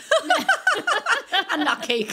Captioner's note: laughing